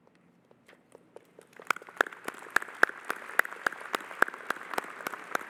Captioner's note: audience applauding